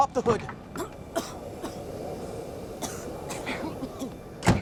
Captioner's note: all coughing